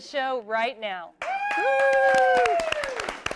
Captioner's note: �cheering and applause�